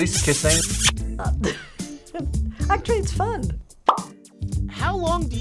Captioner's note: laughs